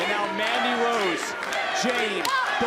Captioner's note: crowd cheering